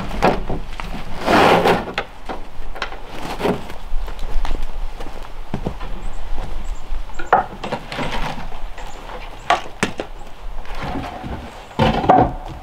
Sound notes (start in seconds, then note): 0.0 sled scraping; 7.1 wood clunking